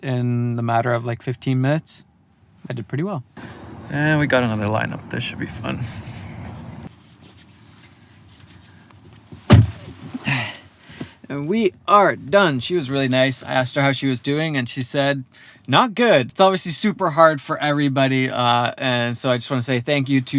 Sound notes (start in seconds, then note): 10.3 huffs